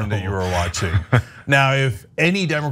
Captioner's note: laugh